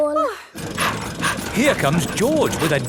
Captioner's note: daddy pig panting